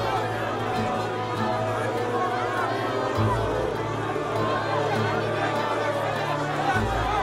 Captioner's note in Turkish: Kalabalık bağrışma sesleri